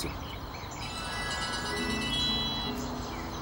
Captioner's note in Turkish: Telefon çalıyor